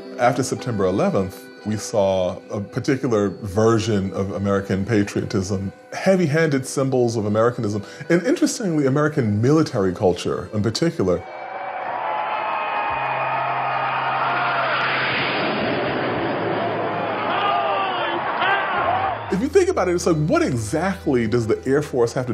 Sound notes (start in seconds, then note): 11.2 cheering; 13.7 jet engines